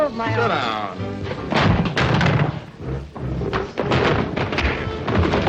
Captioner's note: chair bangs; fist thudding; dramatic music